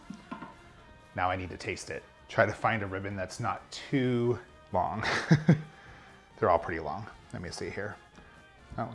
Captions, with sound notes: Now I need to taste it. Try to find a ribbon that's not too long. (chuckles) They're all pretty long. Let me see here.